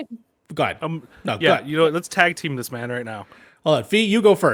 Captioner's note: laugh